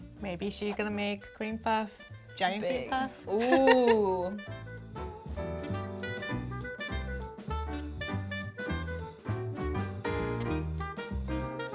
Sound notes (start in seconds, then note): 3.3 giggles; 5.6 upbeat music